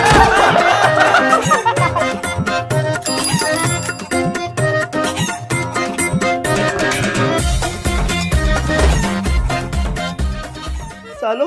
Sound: laughing

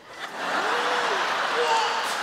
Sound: audience laughing

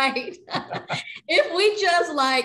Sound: both laughing

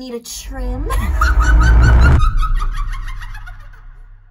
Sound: maniacal laughter

